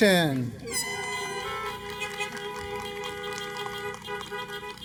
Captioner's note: applause